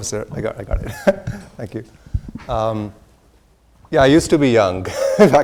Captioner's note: laughs